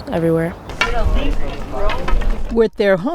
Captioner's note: walking sticks hitting the pavement